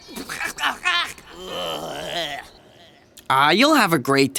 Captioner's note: sputtering